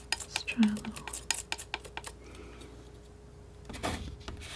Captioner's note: scratching